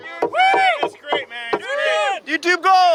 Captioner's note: cheering